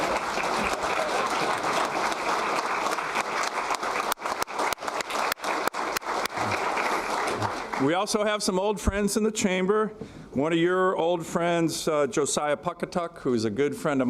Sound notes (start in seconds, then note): 2.2 applause